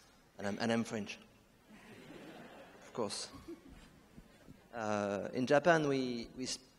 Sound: audience laughs

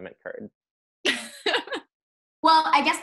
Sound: laughing

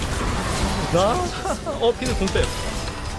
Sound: laugh

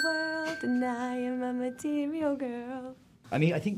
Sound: timer dinging

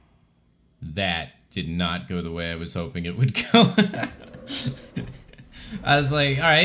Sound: breaks out in laughter

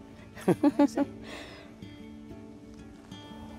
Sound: laughs

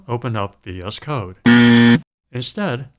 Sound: buzzer

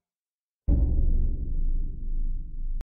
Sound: thudding noise

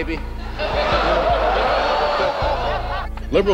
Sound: laughter, oohing

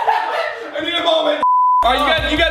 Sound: laughter; beep

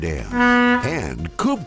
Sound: boat horn hoots

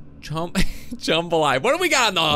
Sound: laughs

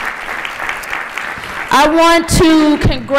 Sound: applause

